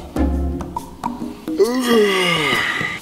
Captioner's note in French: Baillement